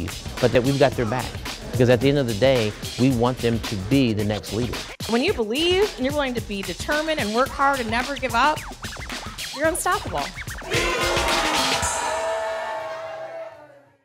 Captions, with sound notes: but that we got their back, because at the end of the day, we want them to be the next leaders. When you believe and you're going to be determined and work hard and never give up, you're unstoppable. (KIDS CHEERING)